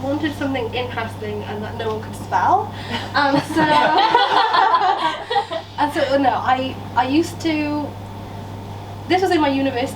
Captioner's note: laughter from audience